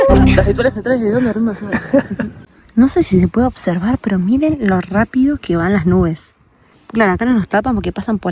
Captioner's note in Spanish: risas